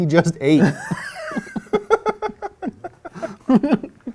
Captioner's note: laughing